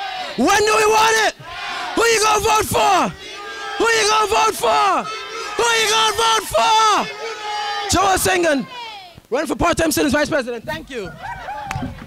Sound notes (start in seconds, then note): 0.3 crowd; 7.1 crowd